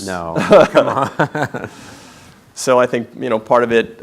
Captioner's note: laughing